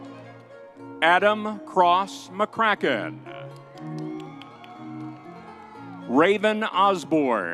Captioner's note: crowd cheering